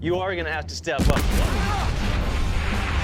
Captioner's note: explosion; screams